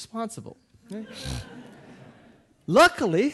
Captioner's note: audience laughing